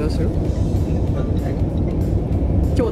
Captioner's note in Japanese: lineの発着音